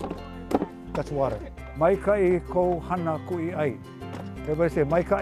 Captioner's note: speaking Hawaiian